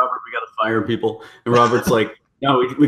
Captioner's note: laughs